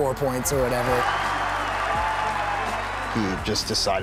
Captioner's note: cheering